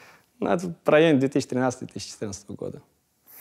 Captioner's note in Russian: none